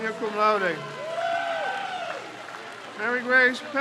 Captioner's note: crowd cheers